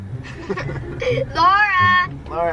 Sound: laughing

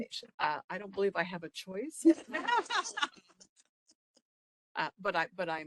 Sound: laughing

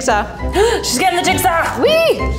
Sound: gasps

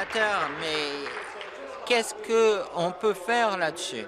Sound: applause

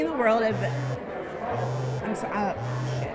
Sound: phone vibrating

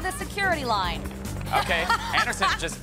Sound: laughs

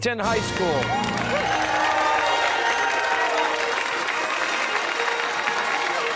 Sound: fanfare; cheers and applause

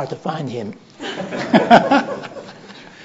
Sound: laughter

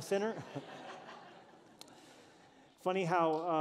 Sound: laughter

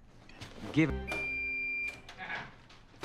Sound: microwave beeping done noises

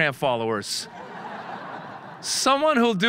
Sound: audience laughing

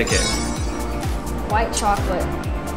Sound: metallic dinging

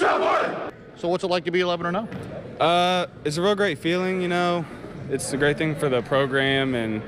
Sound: cheering

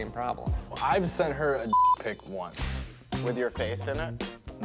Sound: beep

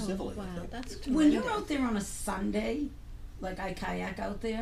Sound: voiceover

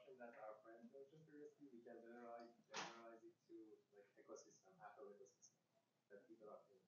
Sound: faintly speaking

